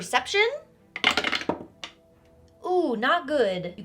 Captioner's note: dice rattling